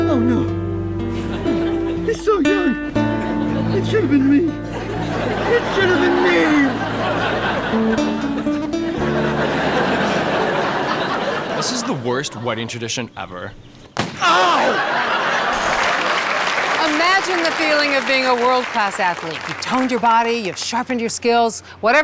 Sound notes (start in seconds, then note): 8.4 audience laughing; 14.0 gun fires and paint splatters